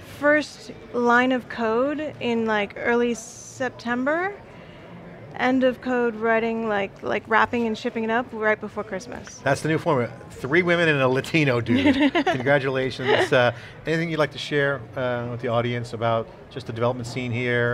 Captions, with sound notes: First line of code in early September, end of code writing, like wrapping and shipping it up right before Christmas. >> That's the new format, three women and a latino dude. (laughing) Congratulations, anything you'd like to share with the audience about the development scene here,